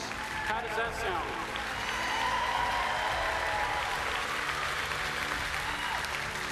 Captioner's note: cheers and applauses